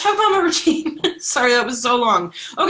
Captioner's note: laughs